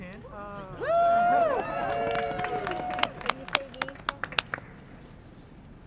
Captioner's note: clapping